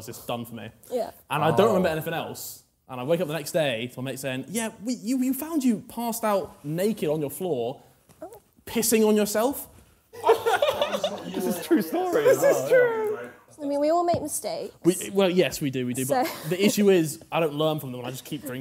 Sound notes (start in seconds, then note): 10.2 laughing